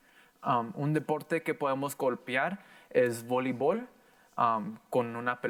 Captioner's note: in foreign language